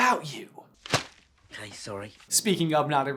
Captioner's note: thwap